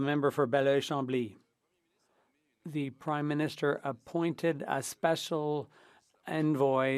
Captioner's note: speaking French